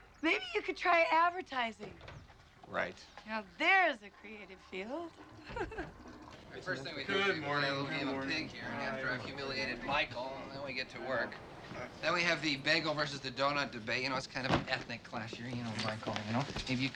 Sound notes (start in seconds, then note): 5.7 laughs; 6.4 overlapping chatter